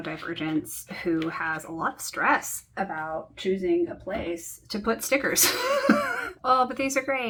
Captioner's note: laughs in stress